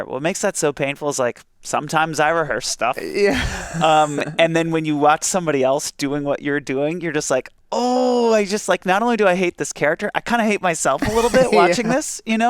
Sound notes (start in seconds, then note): 3.0 laughs